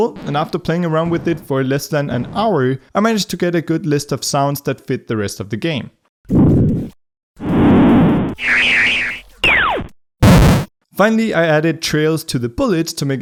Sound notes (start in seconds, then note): 6.5 electronic sound effects